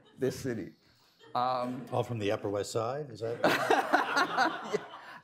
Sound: laughter; laughter

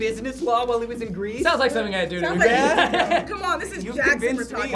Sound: laughs

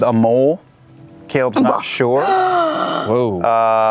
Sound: gasps

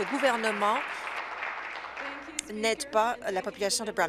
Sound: applause

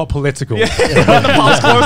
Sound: all laughing

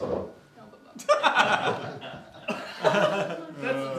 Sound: scattered laughter

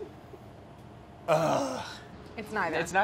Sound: sighs

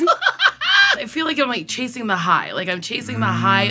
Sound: laughs

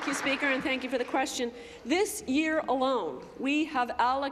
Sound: applause

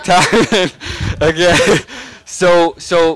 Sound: laughing

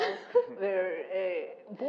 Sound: laugh

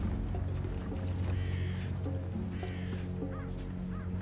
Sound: crow cawing

